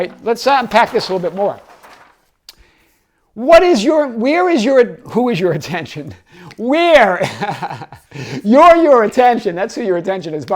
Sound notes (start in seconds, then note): 7.2 laughs